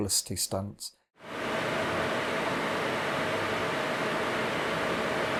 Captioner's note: projector hums